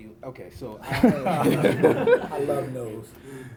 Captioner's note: laughs